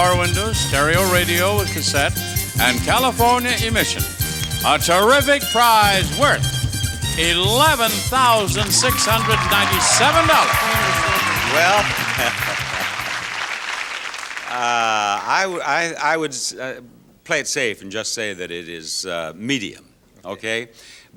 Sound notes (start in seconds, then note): 10.5 audience cheers